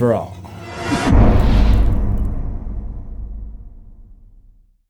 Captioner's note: impact